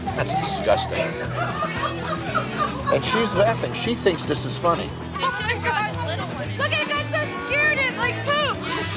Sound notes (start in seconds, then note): 1.0 laughter